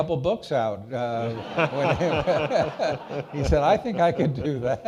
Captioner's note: all laughing